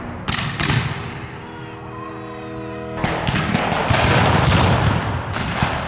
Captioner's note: gunshot cracking continues